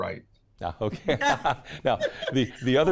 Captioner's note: laughs